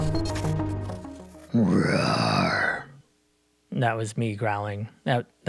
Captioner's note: roooar